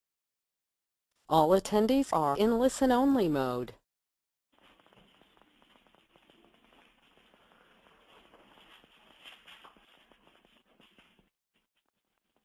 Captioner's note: recorded announcement